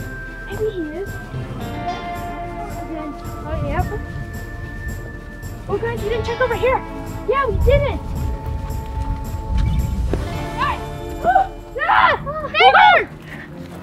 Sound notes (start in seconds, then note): 1.3 western music; 3.2 mumbles